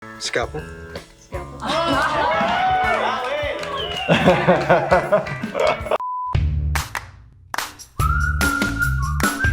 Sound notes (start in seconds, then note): 1.6 cheering; 4.2 laughing; 6.0 beep; 6.8 upbeat music